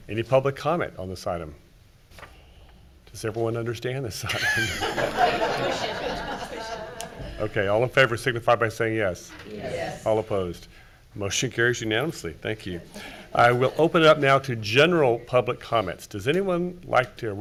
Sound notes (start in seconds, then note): 4.3 everyone laughing